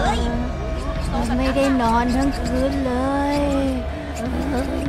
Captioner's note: Chirpchirp